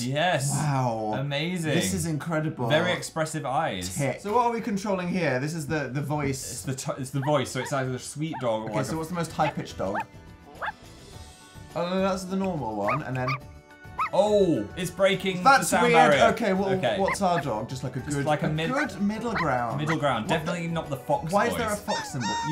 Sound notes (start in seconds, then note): 10.6 dog barks at normal pitch; 13.9 dog barks at high pitch